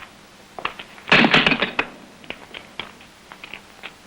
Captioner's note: bangs